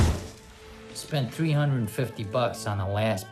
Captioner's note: explosion bursting